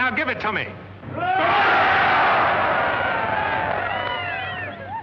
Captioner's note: cheers